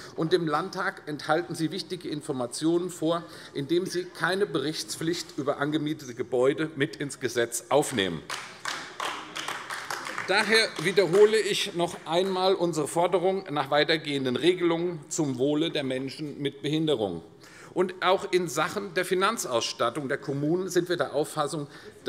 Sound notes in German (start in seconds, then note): 8.2 Beifall AfD